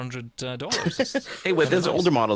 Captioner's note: laughs